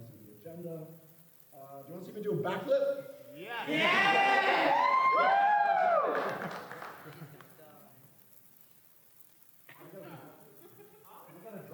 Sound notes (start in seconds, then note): 4.0 thunderous applause